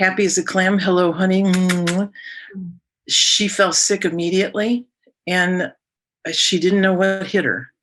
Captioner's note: makes kissing sounds